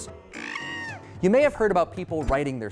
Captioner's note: monkey cries